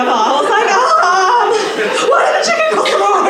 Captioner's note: aaaargh